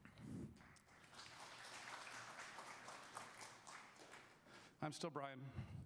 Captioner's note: audience applause